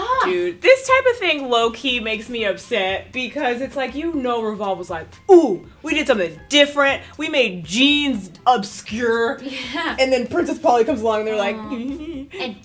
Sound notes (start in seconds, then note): 9.8 laughs